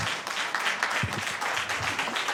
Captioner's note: applause